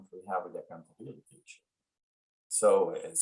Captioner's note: audio trails off